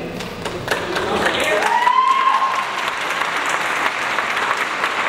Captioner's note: audience applauds